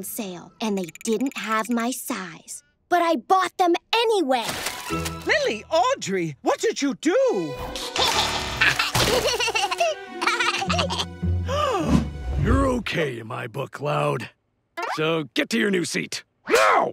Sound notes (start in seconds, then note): 4.4 splatting; 7.9 laughing; 11.4 gasping